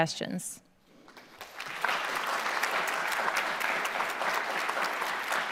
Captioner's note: audience clapping